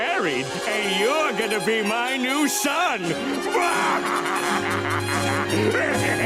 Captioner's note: evil laughter